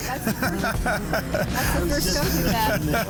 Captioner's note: laughing